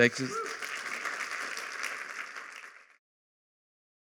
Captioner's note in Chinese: 掌声